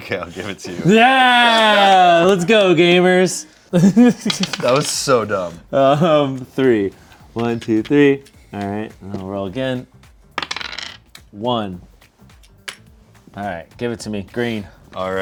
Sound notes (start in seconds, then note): 3.7 laughs